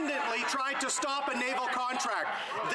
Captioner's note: some Laughter